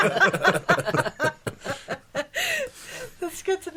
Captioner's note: laughing